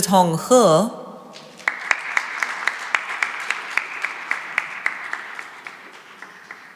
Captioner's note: applause